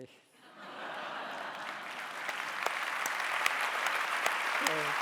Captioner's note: audience applauding